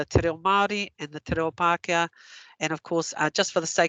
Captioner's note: non-english